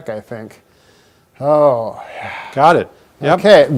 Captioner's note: sighs